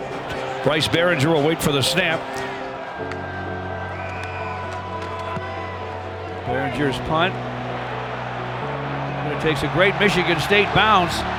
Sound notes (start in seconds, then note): 3.9 whistle blows